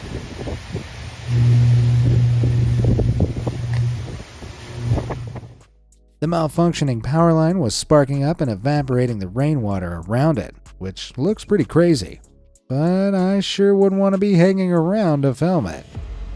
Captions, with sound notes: (wind roaring) (electricity humming) The malfunctioning power line was sparking up and evaporating the rainwater around it, which looks pretty crazy, but I sure wouldn't want to be hanging around to film it.